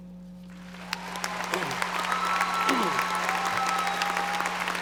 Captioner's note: audience applauding